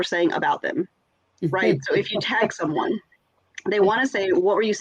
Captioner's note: laughs